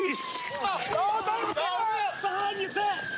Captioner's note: yells